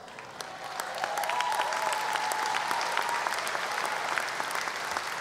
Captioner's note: audience applause